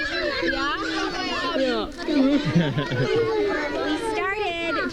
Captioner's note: laughing